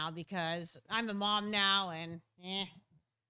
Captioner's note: none